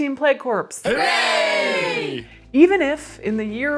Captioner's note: crowd